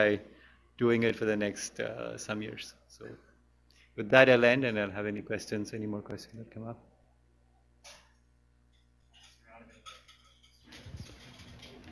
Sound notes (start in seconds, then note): 9.2 pause